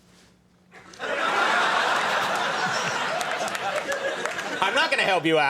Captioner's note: audience laughing